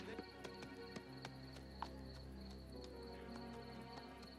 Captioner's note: hooves clopping